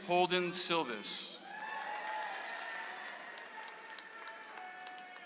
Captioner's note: audience applauds